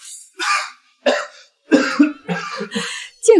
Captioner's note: cough cough cough